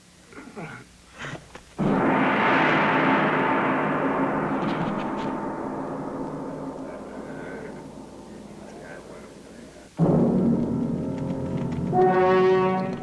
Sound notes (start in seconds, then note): 1.8 gong banging; 10.2 ominous music